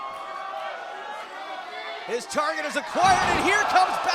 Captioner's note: cheers & applause